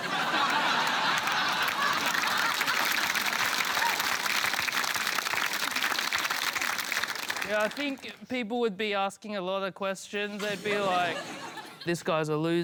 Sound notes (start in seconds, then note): 0.0 laughter; 2.2 applause